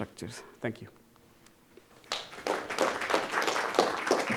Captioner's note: audience clapping